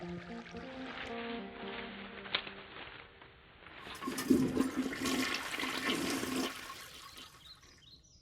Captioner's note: sound of a flushing toilet